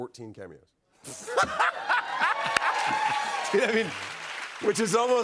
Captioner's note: both laugh